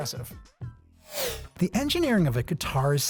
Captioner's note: animation whooshing